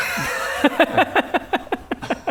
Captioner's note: greedy laughter